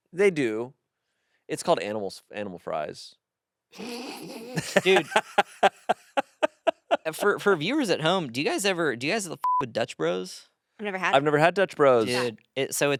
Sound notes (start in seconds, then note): 3.8 laughs; 9.4 beep